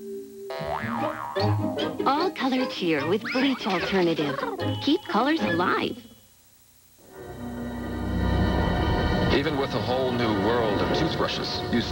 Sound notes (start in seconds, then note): 0.5 boing